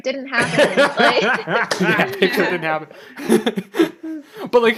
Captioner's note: laughs